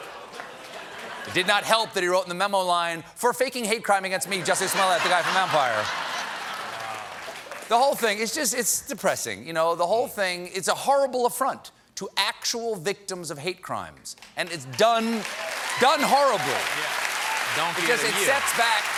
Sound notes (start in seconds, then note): 0.0 laughter